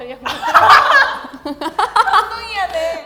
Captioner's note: laughing